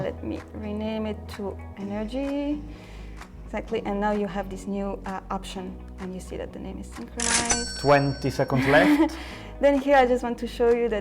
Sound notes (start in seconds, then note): 7.2 cash register cha-ching; 9.2 exhales nervously